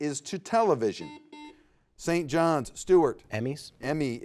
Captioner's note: buzzer beeps